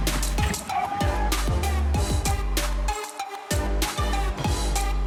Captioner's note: firefighters shouts